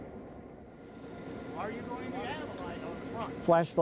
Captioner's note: indistinct conversations